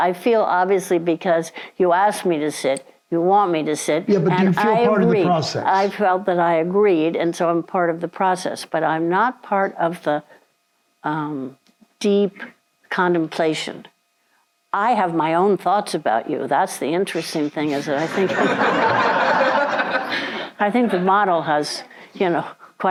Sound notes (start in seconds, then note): 17.6 audience laughs